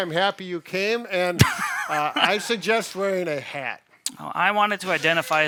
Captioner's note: laughing